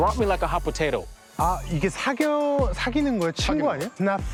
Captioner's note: speaking Korean